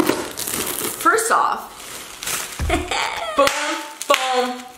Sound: chuckles; bubble wrap popping

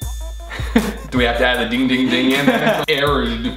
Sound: laughs

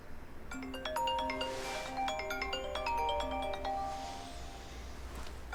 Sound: cell phone rings

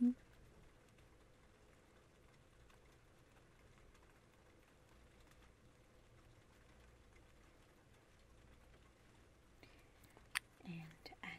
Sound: rain sounds

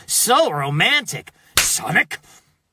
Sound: slap

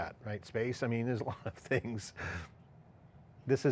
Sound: laughs

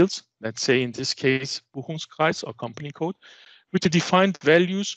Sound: german

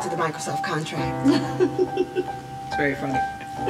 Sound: chuckling

